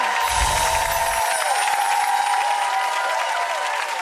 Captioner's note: clapping; tones chime